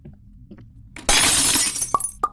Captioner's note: glass shattering